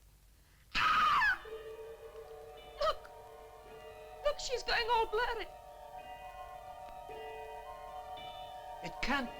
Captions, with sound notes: - (screams) Look, look she's going all blurry. - It can't be!